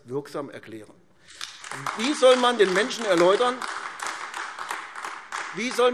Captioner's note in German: Beifall AfD